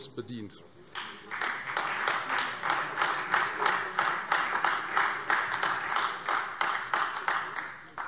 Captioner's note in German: Beifall